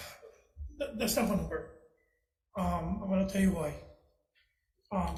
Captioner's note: sighs